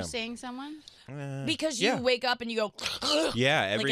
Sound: struggling to breathe

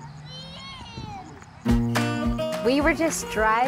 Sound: children in the background

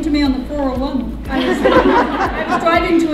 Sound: audience laughing

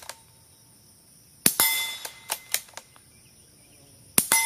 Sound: metal ding and gun reloading; metal ding and gun reloading

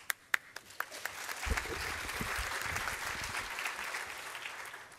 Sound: applause

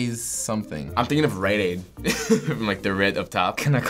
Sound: laughing

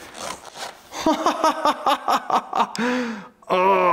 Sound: pleased laughter

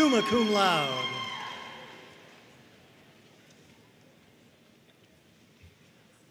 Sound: audience cheering and applauding

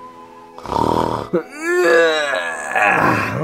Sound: peaceful music; Mario snoring; Mario yawning

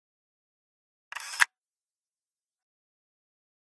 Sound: sound of camera shutter

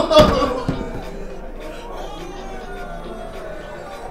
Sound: Cathelaya crying

